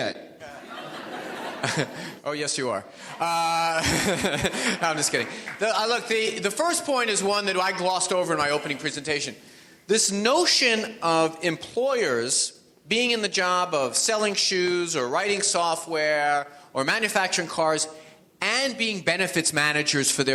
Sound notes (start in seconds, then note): 0.4 audience laughs; 3.6 audience laughs